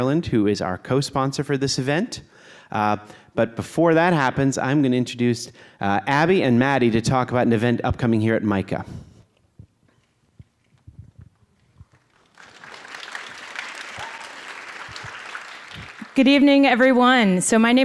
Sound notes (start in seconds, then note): 11.6 applause